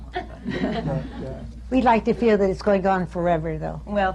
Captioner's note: laughter